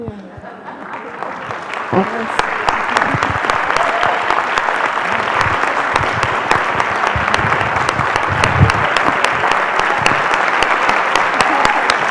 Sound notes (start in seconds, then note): 0.2 laughter; 0.6 applause